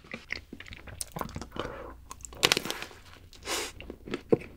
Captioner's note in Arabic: هذا الصوت من القش مرتفع للغاية